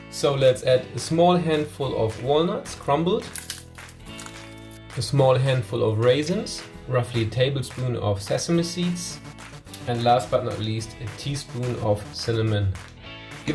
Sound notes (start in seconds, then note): 3.3 nuts crunching